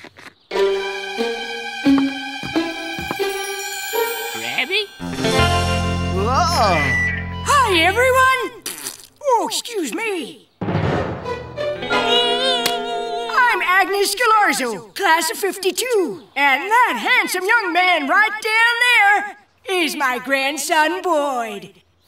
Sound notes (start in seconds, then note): 8.6 flatulence sounding; 13.4 whimpering